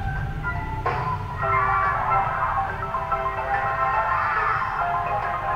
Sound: elf sounds

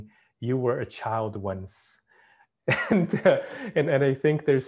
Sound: chuckles

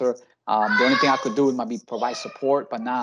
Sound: child yells

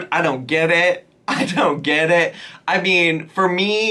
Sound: laughs

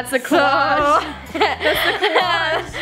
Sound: laughter

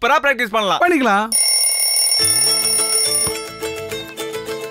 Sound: alarm ringing

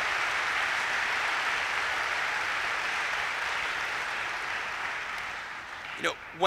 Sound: applause

